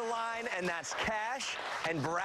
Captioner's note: cheers and applause